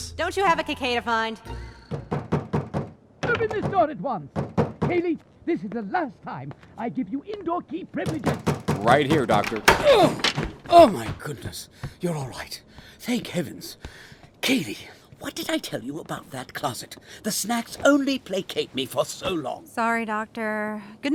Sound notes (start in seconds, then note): 2.2 knocking on door; 8.1 door opens